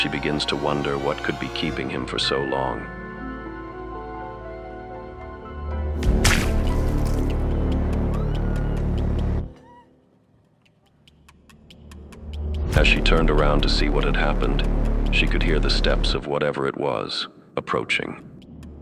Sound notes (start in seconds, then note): 6.0 splatter; 8.2 muffled scream